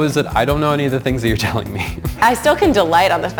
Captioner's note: laughing